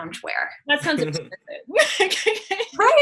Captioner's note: laughs; chuckles